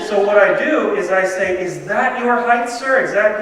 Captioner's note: laughter